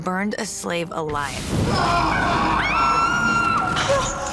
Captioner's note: screaming